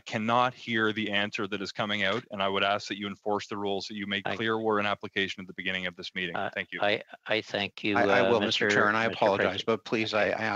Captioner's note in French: voix de l'interprète